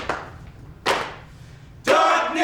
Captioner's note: rhythmic clapping